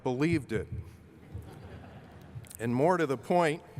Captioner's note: laughter